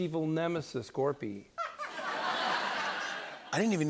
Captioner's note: laughter